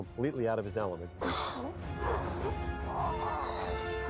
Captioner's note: groaning